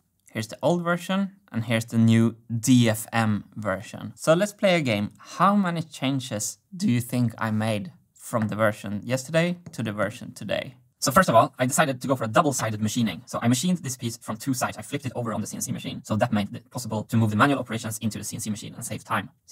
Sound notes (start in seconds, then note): 11.0 high speed speech